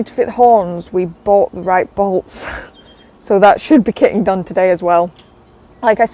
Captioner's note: laughs